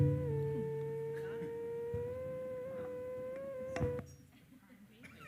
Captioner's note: mic feedback squeals